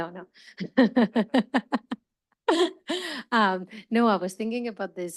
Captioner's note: laughs